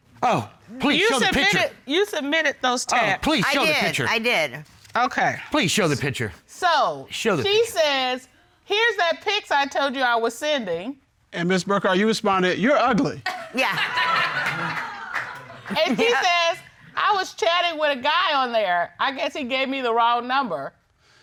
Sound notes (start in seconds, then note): 13.3 audience laughing